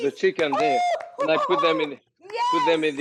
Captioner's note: Rachael cheering